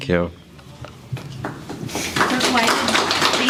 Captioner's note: applause